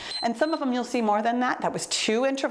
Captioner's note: timer beeps